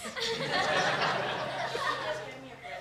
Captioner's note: laughter